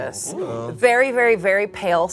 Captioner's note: all exclaim